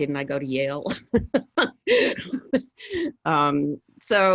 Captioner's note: laughs